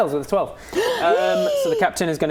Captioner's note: gasp